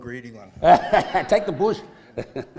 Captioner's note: laughs